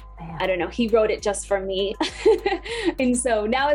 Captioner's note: laughs